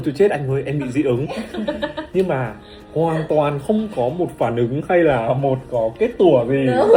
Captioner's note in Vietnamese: tiếng cười